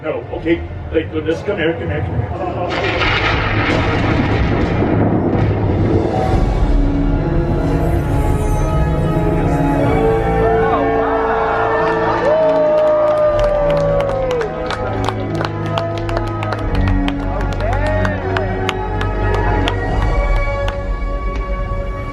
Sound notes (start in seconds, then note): 2.0 thunder crashes; 3.2 dramatic orchestral music; 11.8 applauding; 12.7 audience cheering; 17.3 dramatic orchestral music